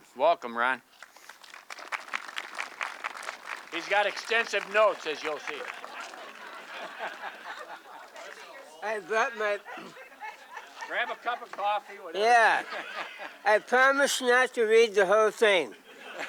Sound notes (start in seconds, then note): 1.6 audience clapping; 6.2 audience laughing